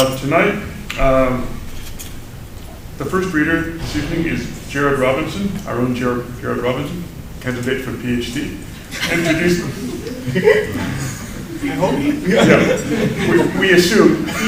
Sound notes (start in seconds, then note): 8.9 laughter